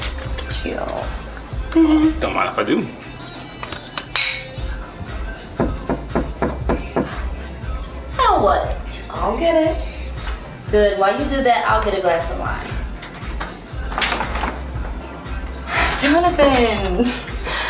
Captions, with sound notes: Get you this. Don't mind if I do. [GLASSES CLANK] [KNOCK ON DOOR] Now what? I'll get it. Good. While you do that, I'll get a glass of wine. Jonethen.